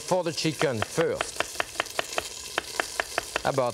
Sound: knife thudding

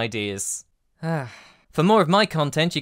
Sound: sigh

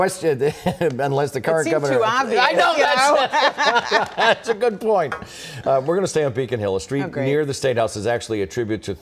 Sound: laughter

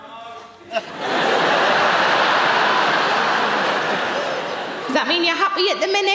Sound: audience laughing

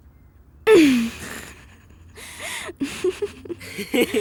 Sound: laughing

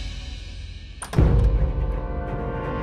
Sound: door opening

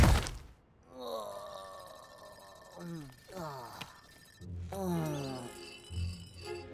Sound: groaning

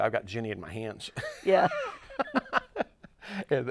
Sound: laughs

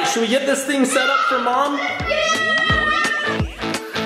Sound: family cheering; upbeat music

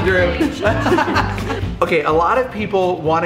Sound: laughing

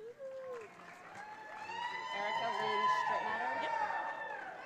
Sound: audience cheers

